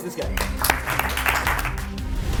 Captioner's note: audience applauding; dramatic music